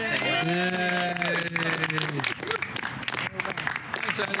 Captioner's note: group cheers